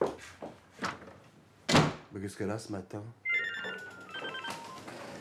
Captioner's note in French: Elle claque la porte